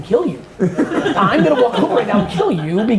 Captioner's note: laughs